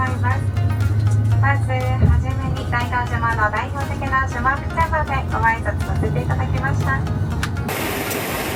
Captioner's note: island language